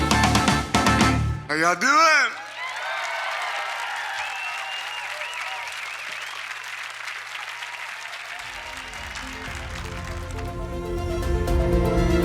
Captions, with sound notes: How y'all doing? (audience cheering) (bright music)